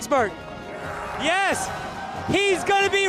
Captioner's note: audience cheering